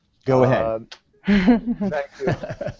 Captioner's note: laughter